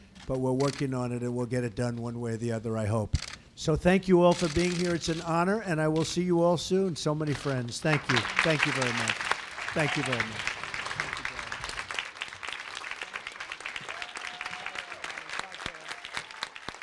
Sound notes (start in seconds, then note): 7.9 applause; 11.0 applause